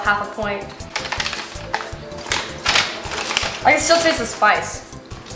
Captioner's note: bag crinkling